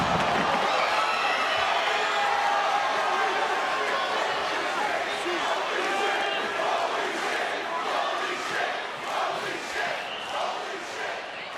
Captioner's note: crowd chants "holy--"